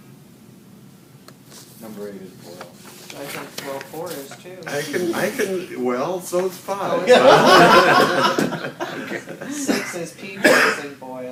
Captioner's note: laughing